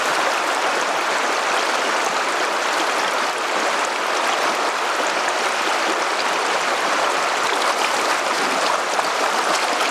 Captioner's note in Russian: шум реки